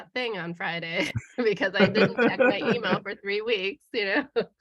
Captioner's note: laughter